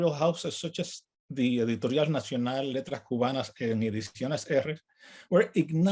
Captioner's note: speaks in native language